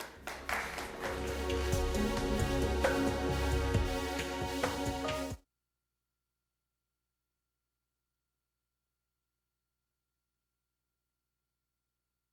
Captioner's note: applause